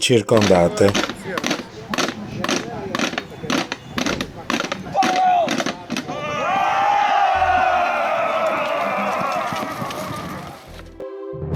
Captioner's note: Applauso